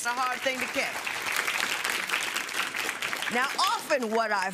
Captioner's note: applause